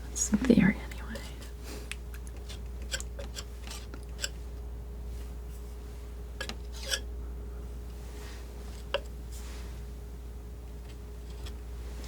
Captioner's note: crunching